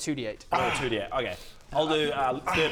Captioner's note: pathetic whimper